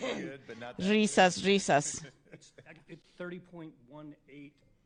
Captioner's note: laughter